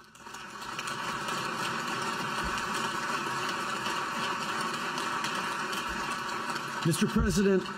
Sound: applause

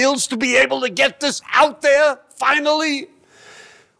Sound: none

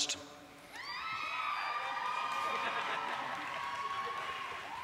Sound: cheering

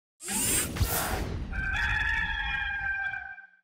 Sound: rooster crowing

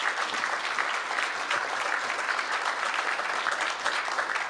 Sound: applause

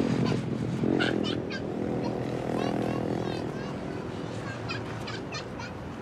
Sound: girl laughs

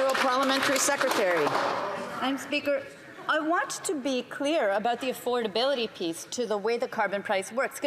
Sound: some Applause

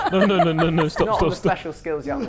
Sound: laughing

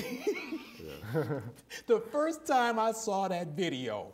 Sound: laughing

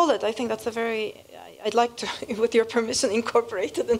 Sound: laugh

